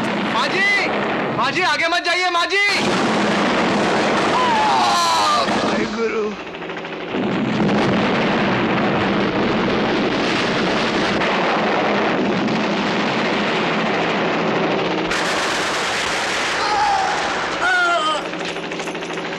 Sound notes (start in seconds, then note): 7.4 explosion